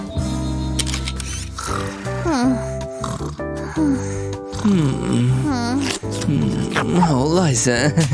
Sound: snoring

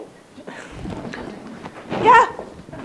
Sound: audience laughing

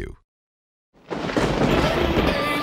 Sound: thunder crashing

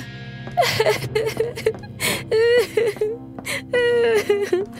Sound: Sabrina cries

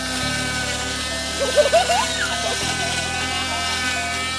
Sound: giggles

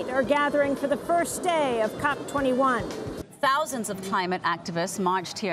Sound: music stops. Background noise of protestors

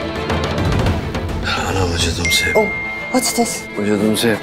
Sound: message tone

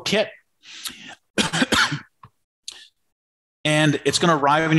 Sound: coughs

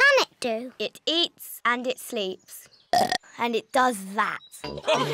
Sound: burps

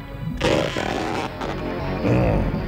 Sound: Dredge groans

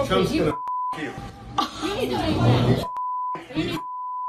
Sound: group chattering

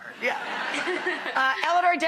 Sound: audience laughing

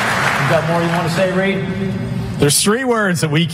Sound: applause

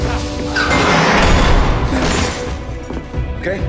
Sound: metal crashes

